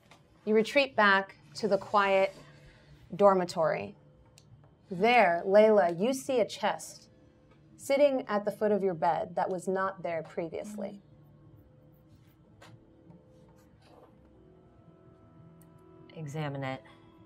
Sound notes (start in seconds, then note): none